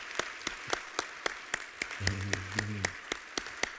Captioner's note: applause